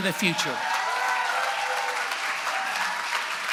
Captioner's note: applause